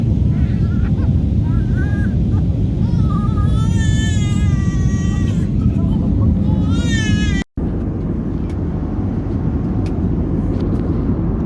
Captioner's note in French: pleurs